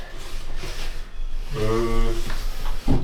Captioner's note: groans